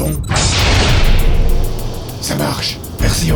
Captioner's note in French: Bruit de verrins